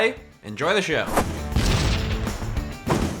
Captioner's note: explosion